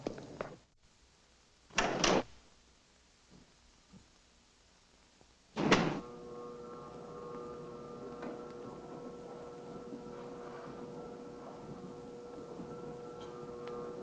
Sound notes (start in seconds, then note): 5.7 lift whirring